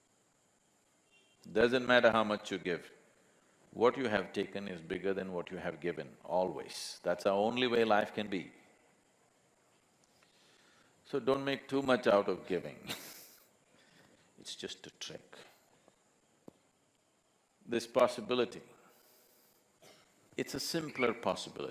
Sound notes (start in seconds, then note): 12.8 laughs